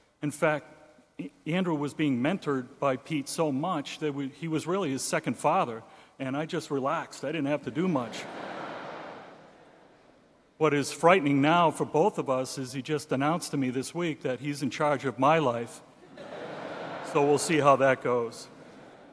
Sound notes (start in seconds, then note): 8.0 audience laughing; 16.0 audience laughing